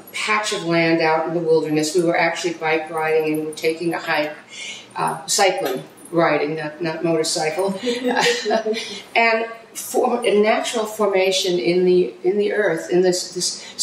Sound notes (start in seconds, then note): 7.8 chuckling